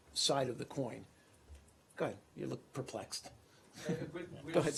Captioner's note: laughter